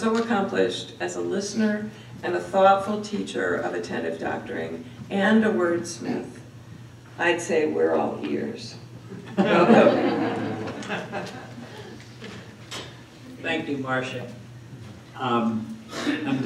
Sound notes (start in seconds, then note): 9.2 laughter